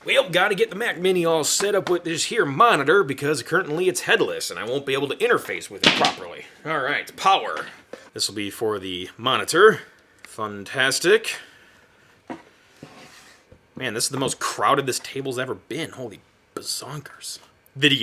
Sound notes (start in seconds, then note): 5.8 cord banging